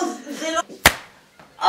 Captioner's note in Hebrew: סטירה